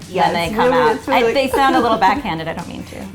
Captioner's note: cries